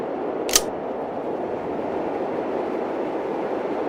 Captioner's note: gun clicks